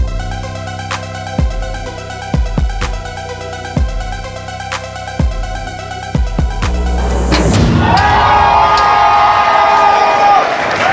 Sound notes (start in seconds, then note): 7.5 crowd